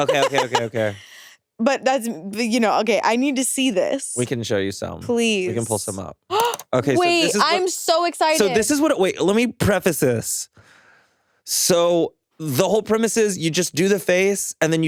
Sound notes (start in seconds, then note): 0.0 chuckles; 6.7 gasps